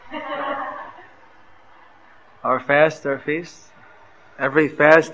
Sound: laughter

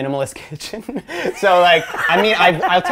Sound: laughing

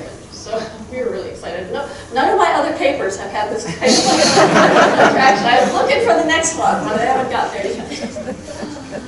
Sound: crowd laughing

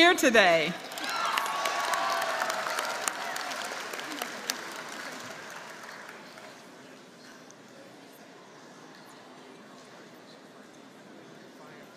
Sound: applause

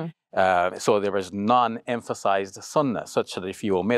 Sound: speaks Arabic

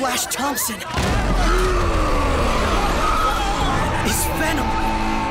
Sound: roars

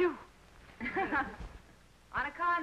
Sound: laughing

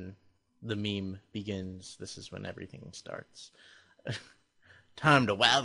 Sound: chuckles

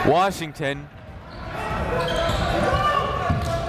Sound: chatter

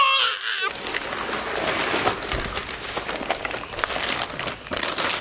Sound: paper crinkling; paper tearing

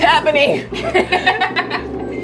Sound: laughing

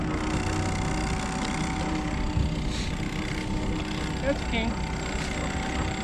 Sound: boat engine idling

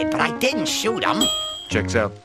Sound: ding!

